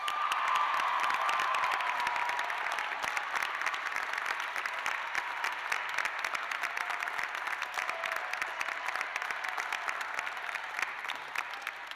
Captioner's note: cheers and applause